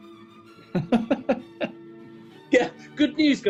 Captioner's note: laughing